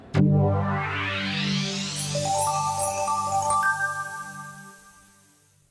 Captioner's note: bright electronic tones